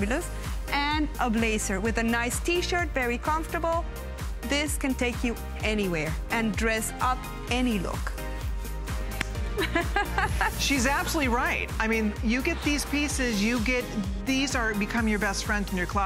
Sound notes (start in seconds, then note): 9.5 laughter